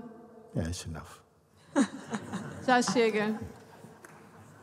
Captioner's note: laughter